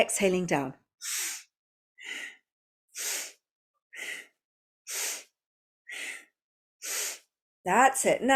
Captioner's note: breathes